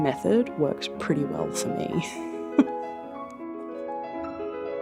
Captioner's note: laughs